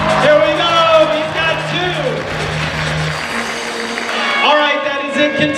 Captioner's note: audience applauds